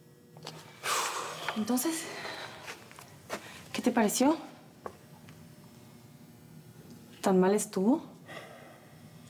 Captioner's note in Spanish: exhala